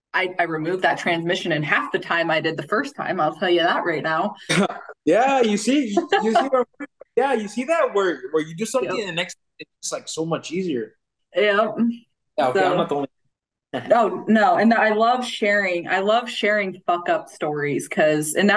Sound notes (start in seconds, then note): 4.5 chuckles; 5.2 laughing